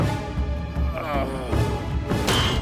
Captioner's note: groaning